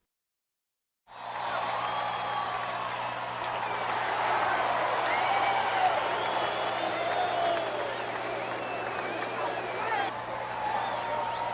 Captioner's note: crowd cheering